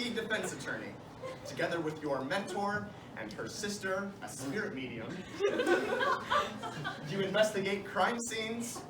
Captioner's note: laughter